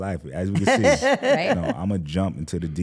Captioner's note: laughs